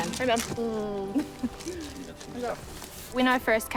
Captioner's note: both chuckle